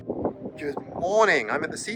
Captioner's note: wind blustering